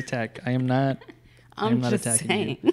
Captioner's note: laughs